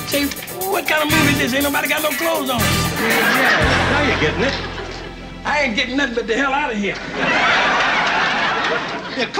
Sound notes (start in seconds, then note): 2.8 audience laughing; 6.9 audience laughing